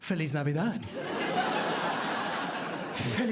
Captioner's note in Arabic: ضحك